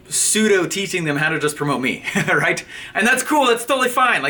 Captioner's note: laughing